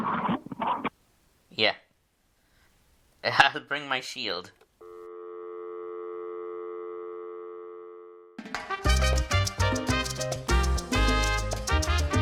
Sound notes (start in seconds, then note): 5.0 call disconnects; 8.6 salsa music